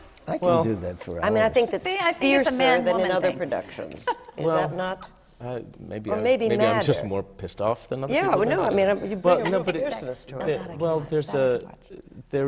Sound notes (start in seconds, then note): 4.0 laughter